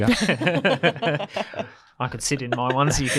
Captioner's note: group laughs; laughs